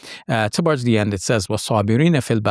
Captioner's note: speaking in foreign language